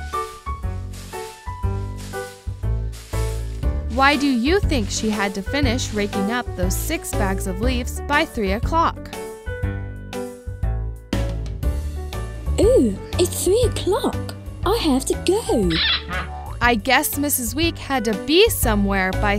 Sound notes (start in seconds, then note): 0.2 upbeat music; 15.7 rake squeaks